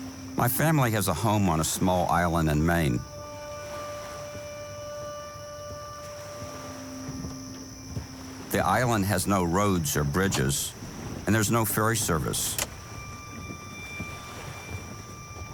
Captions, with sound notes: My family has a home on a small island in Maine. (pensive music) The island has no roads or bridges and there's no ferry service. (switch clicking) (pensive music)